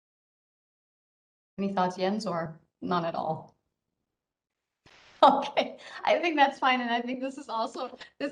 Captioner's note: laughs